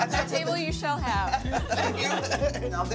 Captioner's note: laughing